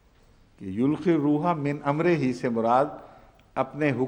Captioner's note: Arabic